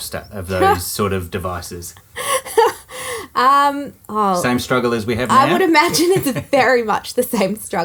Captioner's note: laughing